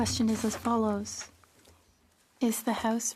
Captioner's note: speaking French